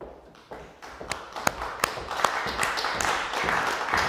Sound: audience applauding

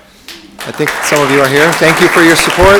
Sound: room applauds

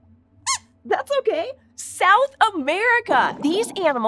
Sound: squeaks squeaking

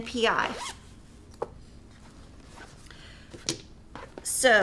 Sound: zipper buzzing

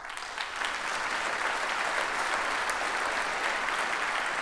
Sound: audience applauds

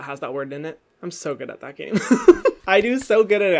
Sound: laughs

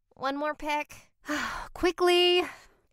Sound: sighs

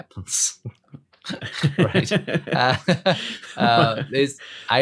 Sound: laughter

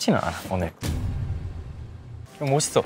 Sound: heart thumps

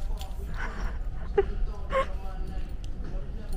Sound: laughs

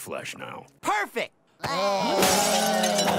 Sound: glass smashing

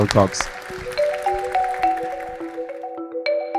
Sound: audience applauds; bright music

